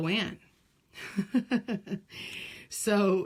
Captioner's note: laugh